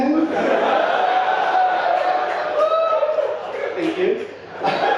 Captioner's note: audience laughing and cheering